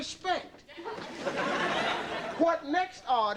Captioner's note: audience laughing